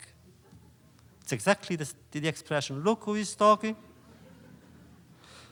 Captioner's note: laughter